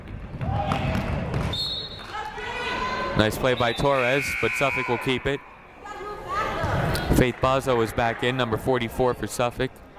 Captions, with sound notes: (whistle blows) Nice play by Torres but Suffolk will keep it. Faith Bozzo is back in, number 44 for Suffolk.